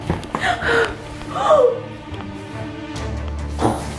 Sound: gasping

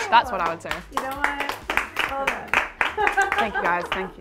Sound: applauding; woman laughing

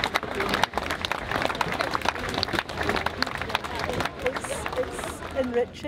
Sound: continued applause

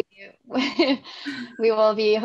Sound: both laughs

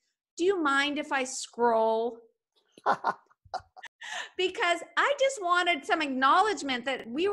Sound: laughing

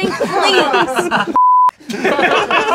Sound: beeping

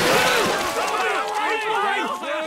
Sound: screaming

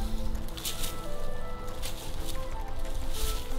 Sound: rustling leaves

